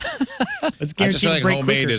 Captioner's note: laughing